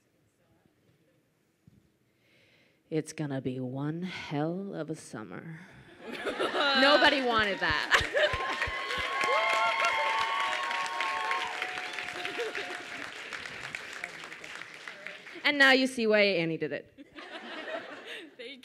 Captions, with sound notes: (whispers) It's gonna be one hell of a summer. Nobody wanted that. (audience cheers) And now you see why Annie did it.